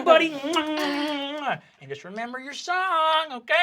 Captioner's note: kissing